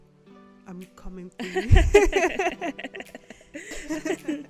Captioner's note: laughter